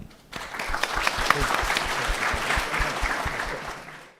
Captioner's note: applauding